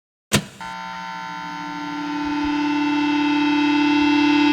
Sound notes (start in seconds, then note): 0.3 faders click; 0.3 electricity buzzing